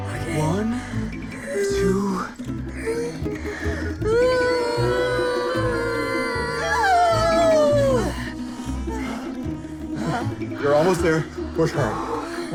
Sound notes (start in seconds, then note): 2.7 maria groaning; 4.5 everybody groaning